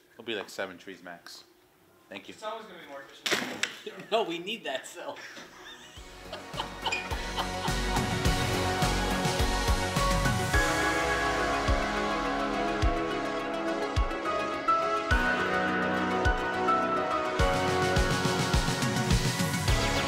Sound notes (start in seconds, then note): 3.5 device thuds; 5.2 cameraman laughs; 5.3 upbeat instrumental music